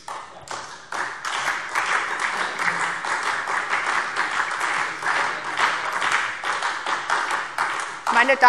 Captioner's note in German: Beifall SPD